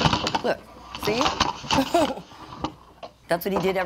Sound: chuckles

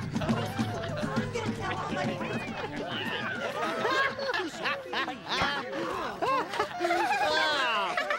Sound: people laughing and chatting

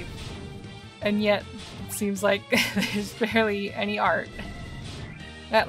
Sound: laughing

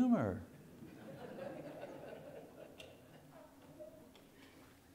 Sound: congregation laughing

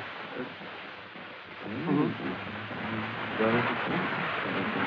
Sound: whispering

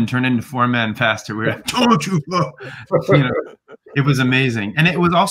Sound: grunts

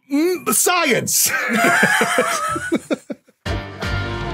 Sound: laugh

